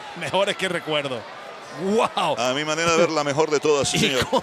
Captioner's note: laugh